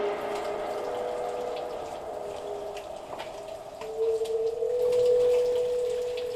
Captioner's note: tense, dramatic music; water trickling